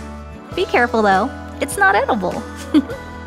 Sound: chuckle

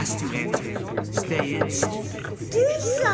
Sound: loud knocking

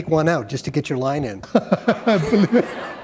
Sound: laughter

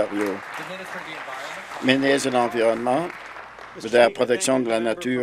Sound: applause

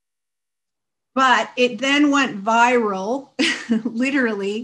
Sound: chuckles

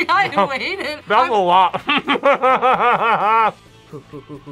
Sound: laughs

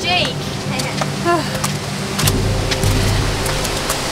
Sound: laughs

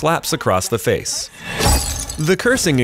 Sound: glass shatters

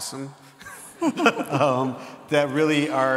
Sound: laughs

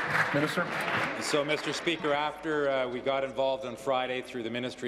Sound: applause

